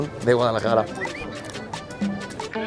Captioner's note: whistle